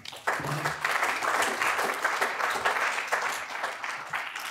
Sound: audience applauds

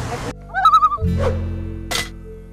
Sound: loon calls; loon calls

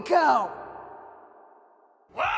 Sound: silence

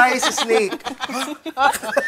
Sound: gasps

